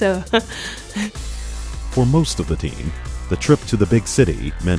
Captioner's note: voiceover